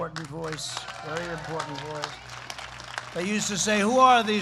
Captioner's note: applause